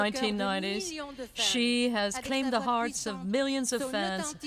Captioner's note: speaking French